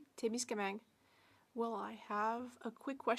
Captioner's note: speaking French